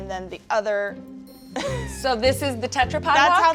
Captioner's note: chuckling